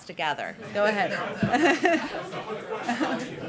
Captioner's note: laughter